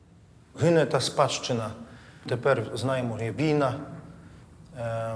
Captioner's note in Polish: po ukraińsku